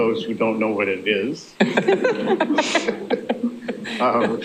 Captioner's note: laughter